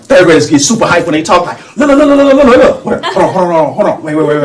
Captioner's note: babbles